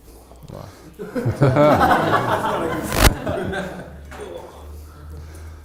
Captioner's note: audience laughs